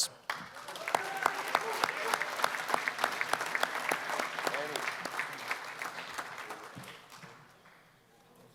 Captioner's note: applause